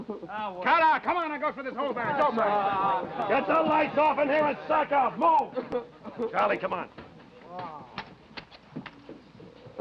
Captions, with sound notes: - Aw, wh- - Cut it out, come on. I'm gonna go through this whole barracks. (men grumbling) - Get the lights off in here and suck up, move! (Danny sobbing) Charlie, come on.